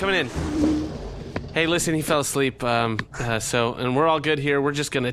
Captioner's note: door opens